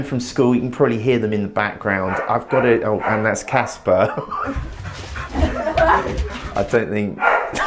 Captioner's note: dog barking